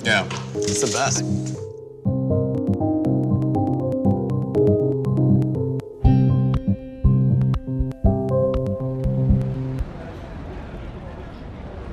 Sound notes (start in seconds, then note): 0.0 instrumental music; 7.7 chatter